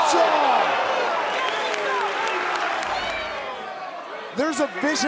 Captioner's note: crowd cheering